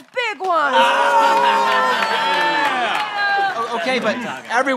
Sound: yelling

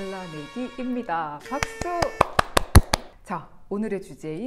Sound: clap clap

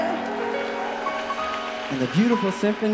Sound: applause

